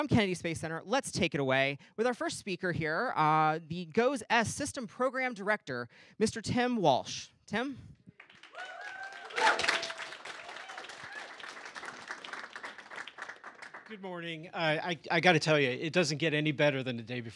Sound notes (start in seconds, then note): 8.1 applause